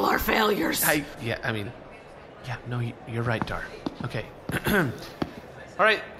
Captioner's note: hushed; clears throat, announces